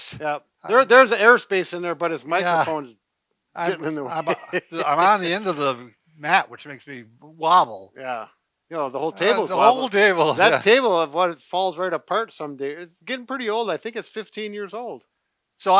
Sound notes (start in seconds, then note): 3.6 chuckles; 9.1 laughs